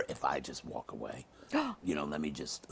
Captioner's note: gasps